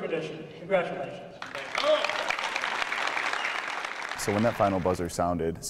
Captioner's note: applause